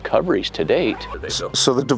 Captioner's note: zipper zipping